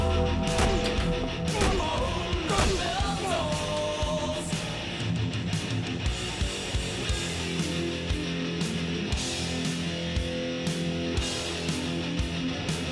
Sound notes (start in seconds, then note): 0.0 bell clanging; 1.4 wrestlers grunting